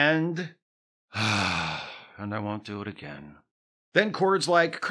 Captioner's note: sigh